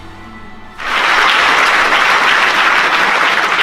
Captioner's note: applause